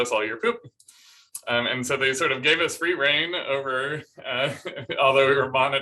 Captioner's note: laughter